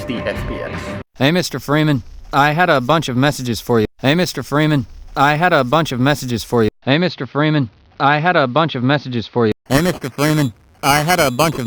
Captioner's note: sample rate example, audio slowly degrades